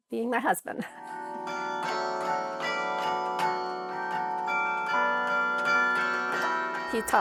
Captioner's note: bells ringing